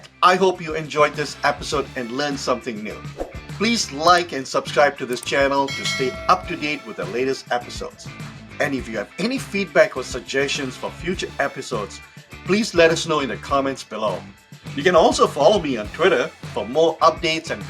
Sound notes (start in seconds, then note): 3.1 graphic whooshes; 5.1 mouse clicking; 5.6 bell clanging